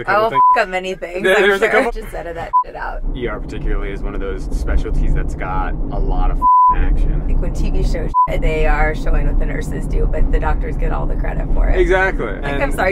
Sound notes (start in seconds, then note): 0.1 beep; 0.9 laughing; 2.4 beep; 8.1 beep